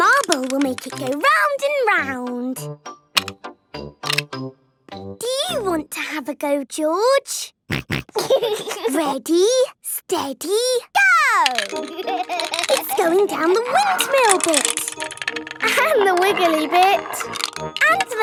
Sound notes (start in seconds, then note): 7.7 snorting and giggling; 11.6 laughing